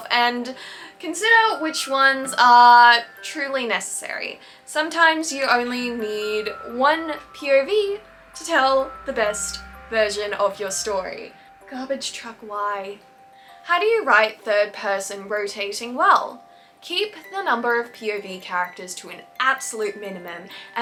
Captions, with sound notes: and consider which ones are truly necessary. Sometimes you only need one POV to tell the best version of your story. (Truck noises.) Garbage truck, why? How do you write third-person rotating well? Keep the number of POV characters to an absolute minimum